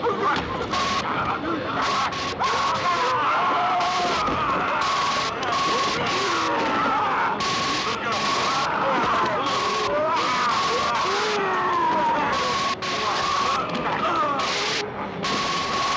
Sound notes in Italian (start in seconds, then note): 0.3 urlo; 4.9 gemito; 11.1 urlo